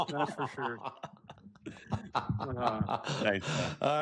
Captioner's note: laughter